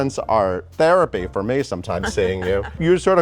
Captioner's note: Sandra laughs